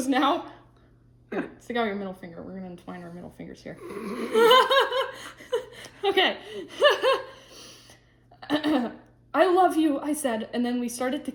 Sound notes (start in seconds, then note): 4.1 laughter